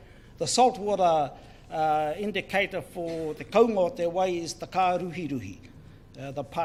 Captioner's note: speaks in foreign language